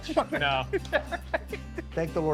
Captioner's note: laughs